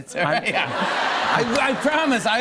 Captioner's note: laughter and applause